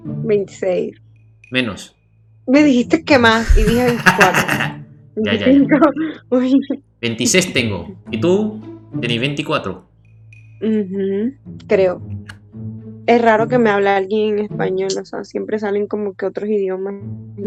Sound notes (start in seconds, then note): 0.6 Spanish; 3.4 Spanish; 8.0 Spanish; 10.0 Spanish; 14.8 Spanish; 17.0 Spanish